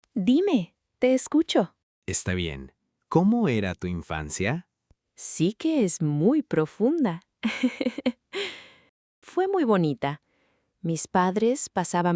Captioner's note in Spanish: risas